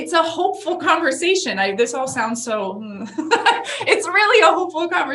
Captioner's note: laughs